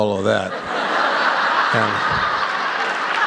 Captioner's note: laughter